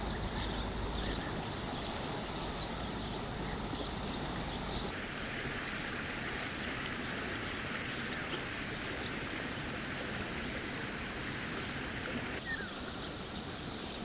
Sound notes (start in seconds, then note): 0.0 sound of nature